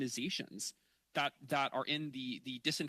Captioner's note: speaking French